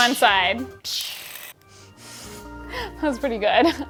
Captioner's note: imitating fire crackling